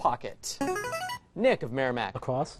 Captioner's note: buzzer